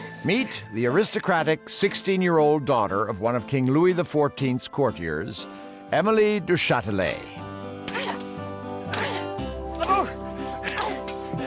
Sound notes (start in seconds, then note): 8.8 <i> both grunting</i>